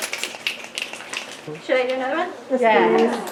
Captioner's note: snaps